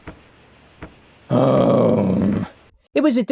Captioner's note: sighs